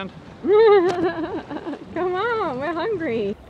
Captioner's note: laughing